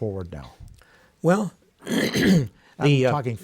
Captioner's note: clears throat